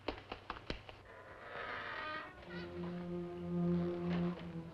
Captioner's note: door creaks; floorboards creaking